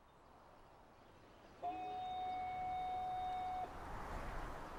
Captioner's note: fog signal blowing